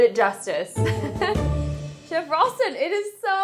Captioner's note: laughs